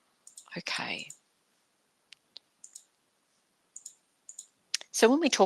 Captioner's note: mouse clicking